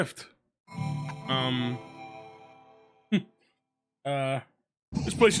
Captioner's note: laughs